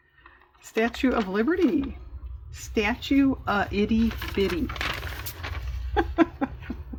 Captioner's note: laughs